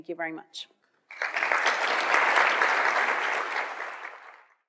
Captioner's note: applause